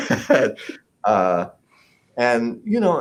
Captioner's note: laughs